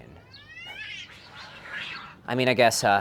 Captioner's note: cat growls viciously